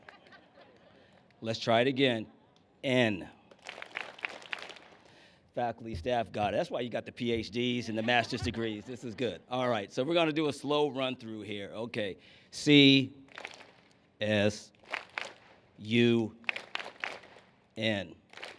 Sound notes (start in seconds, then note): 3.4 clapping; 13.2 clap; 14.5 clapping